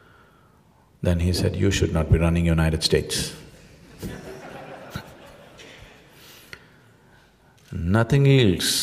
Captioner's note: laughter; 笑聲